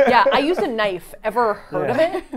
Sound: laugh

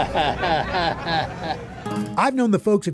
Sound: chuckles

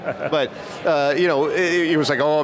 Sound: laughs

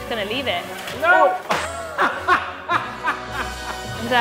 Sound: laughs

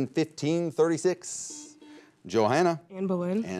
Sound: buzzer beeps

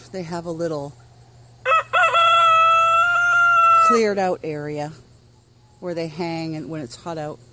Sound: sound of rooster crowing

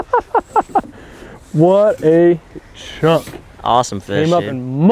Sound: laughing

